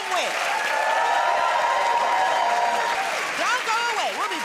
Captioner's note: cheers and applause